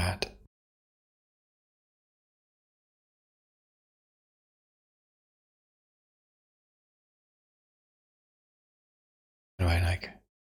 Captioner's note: blank Audio